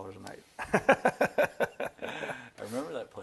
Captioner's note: laughing